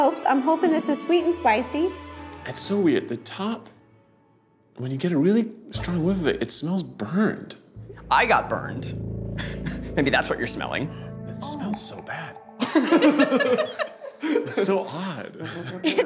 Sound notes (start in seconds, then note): 7.7 tense music; 12.6 group laughs